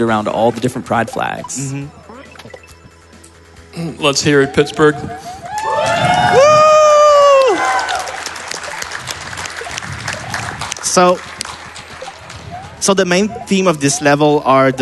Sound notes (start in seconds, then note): 5.5 applause